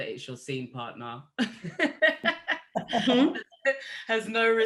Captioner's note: group laughing